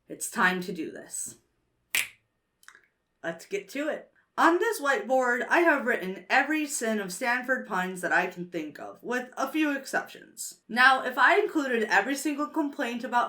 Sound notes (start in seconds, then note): 1.9 snaps fingers